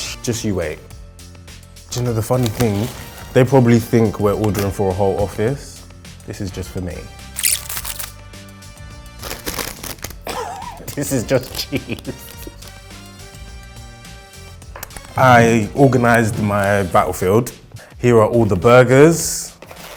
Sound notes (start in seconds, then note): 1.1 light music; 7.4 record scratch; 11.2 laughing